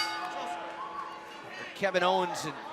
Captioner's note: bell